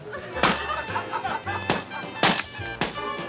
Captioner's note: scattered laughs